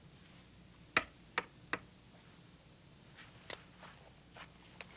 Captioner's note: window taps